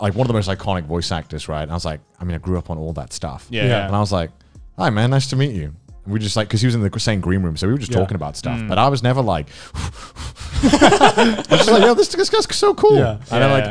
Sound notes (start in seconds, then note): 9.4 breathing heavily; 10.5 men laughing